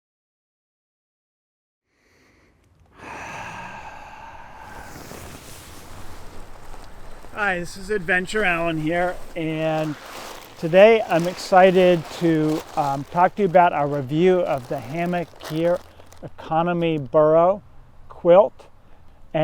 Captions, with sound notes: (breathes deeply) - Hi, this is Adventure Alan here. And today, I'm excited to talk to you about our review of the Hammock Gear Economy Burrow Quilt.